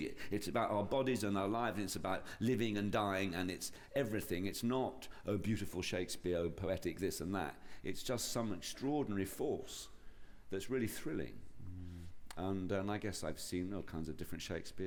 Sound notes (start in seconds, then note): none